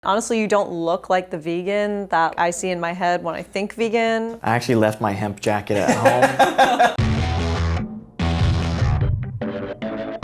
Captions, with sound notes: - Honestly you don't look like the vegan that I see in my head when I think vegan. - I actually left my hemp jacket at home. (laughing) (rock music)